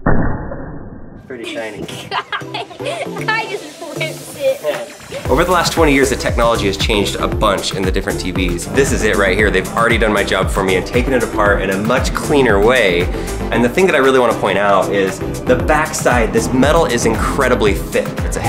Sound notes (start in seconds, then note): 1.4 laughs